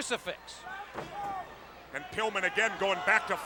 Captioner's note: blows thudding